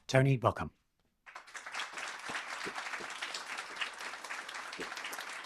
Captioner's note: applause